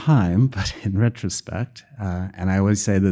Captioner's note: chuckling